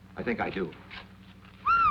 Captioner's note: whistles